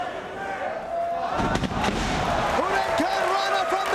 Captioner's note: spectators cheering and applauding